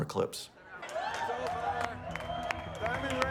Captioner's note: cheers